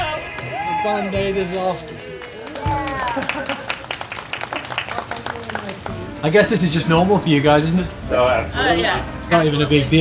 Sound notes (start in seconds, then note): 1.8 nudist clapping; 1.9 cheers